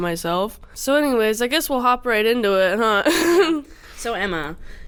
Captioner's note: laughs